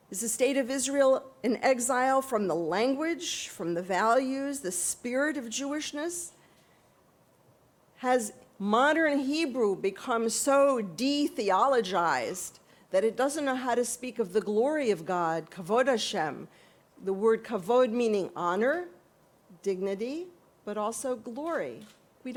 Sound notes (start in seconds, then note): 15.9 hebrew